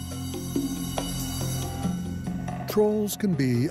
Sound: bell rings

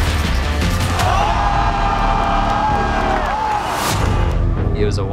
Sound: crowd cheering

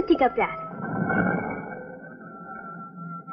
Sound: grinding

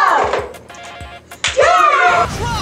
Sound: claps

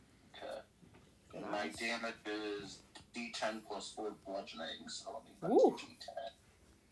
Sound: hoots

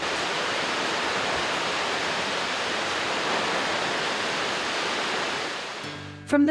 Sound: water falls

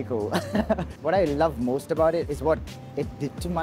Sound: laughs

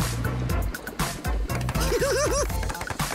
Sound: giggling

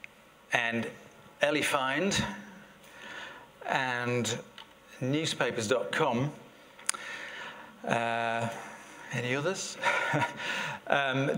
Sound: laughter

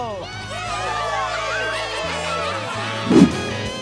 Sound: cheering

